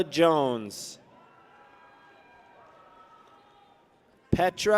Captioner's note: people cheer